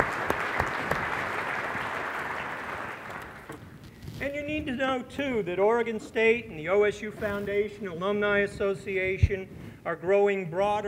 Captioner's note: applause